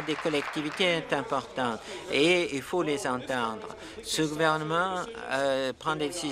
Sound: applause

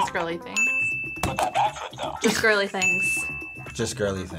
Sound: bell rings; buzzer rings; bell rings; buzzer rings

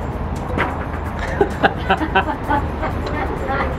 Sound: laughs

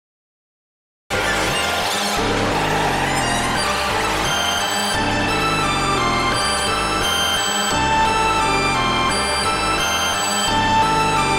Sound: sound of bat cave

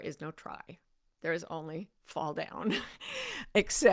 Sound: chuckles

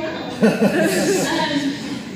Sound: laughter

